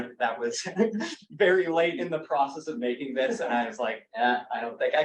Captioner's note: laughs